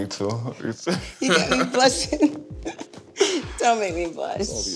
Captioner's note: laughing